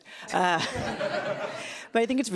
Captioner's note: laughs loudly